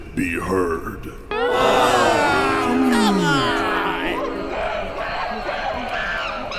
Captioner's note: angry and disappointed crowd noises